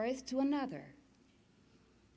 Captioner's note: none